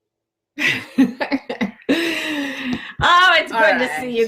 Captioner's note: laughter